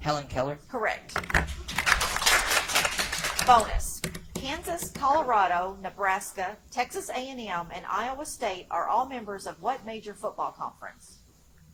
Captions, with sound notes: - Helen Keller. - Correct. (audience applauds) Bonus. Kansas, Colorado, Nebraska, Texas A&M, and Iowa State are all members of what major football conference?